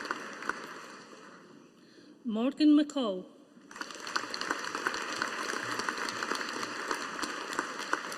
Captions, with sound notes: Morgan McCall. (AUDIENCE APPLAUDING)